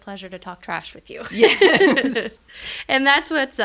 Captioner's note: both laugh